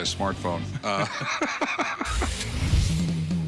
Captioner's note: laughs